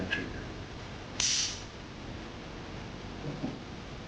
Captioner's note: gun clicks